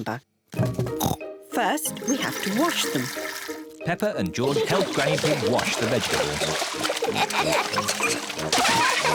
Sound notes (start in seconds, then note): 1.1 oinks; 6.9 both laugh